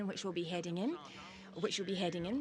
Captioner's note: speaking French